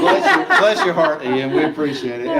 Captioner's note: laughing